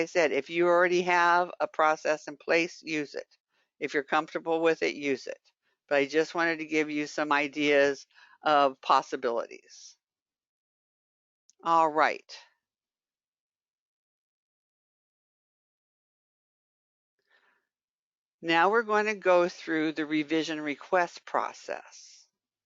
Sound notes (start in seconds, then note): 13.0 5 seconds pause